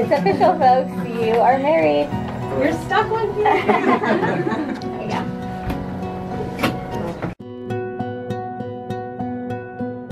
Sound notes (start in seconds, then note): 3.4 laughing; 7.0 soft music